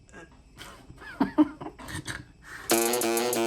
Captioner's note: laughs